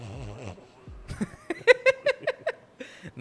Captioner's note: muffled laugh; laughs